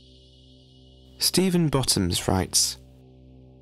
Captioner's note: low humming tone